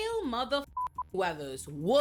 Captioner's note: beep